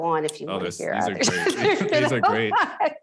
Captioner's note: laughs